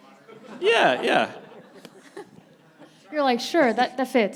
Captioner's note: panelists and audience laughing